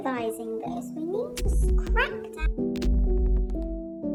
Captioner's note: glitchy static noise